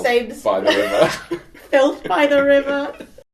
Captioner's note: laughter